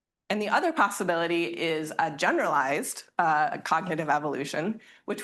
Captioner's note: none